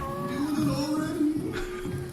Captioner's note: C-53 makes an unconvinced humming noise; distant noises of jubilation